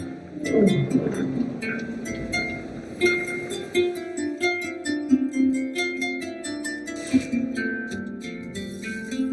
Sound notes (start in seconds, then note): 0.4 monster growls